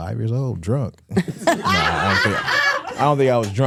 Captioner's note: group laughing